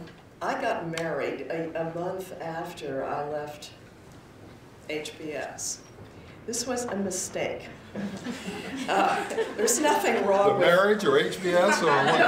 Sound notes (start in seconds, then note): 7.8 laughter